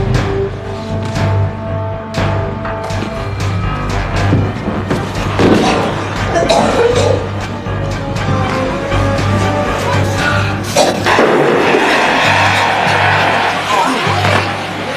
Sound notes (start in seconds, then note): 5.4 coughing; 11.1 gun banging